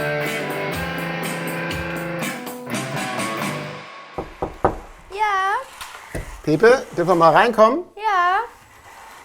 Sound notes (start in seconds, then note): 4.2 knocking